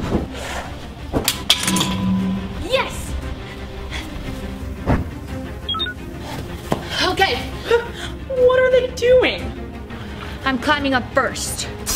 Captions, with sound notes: - Yes. (beeping) - Okay. - What are they doing? - I'm climbing up first.